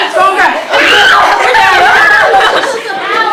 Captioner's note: screaming; laughing